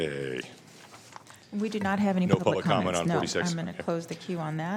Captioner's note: laughter